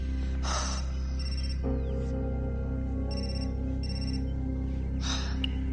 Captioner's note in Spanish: Suena el celular